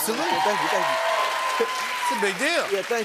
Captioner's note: cheers and applause